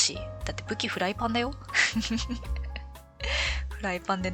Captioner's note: laughs